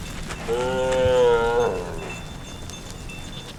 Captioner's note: cows lowing